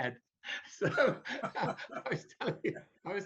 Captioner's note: chuckles